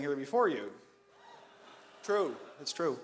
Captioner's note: audience laughs